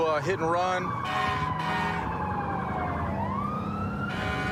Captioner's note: emt sirens blaring